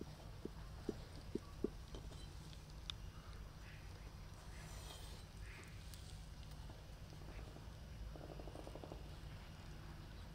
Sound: sound of birds

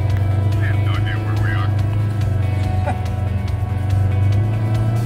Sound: laughs

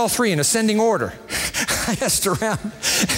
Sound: chuckling

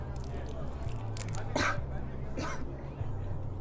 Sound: vomiting, coughing

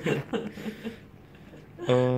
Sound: laughs

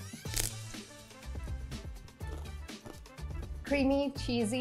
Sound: chip crunches

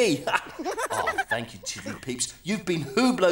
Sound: giggling

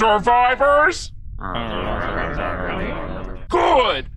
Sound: grumble grumble

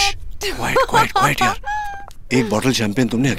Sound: laughing

